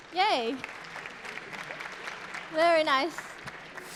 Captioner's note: applause